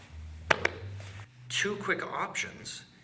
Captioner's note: strong tapping